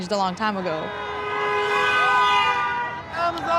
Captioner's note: vehicle horn honking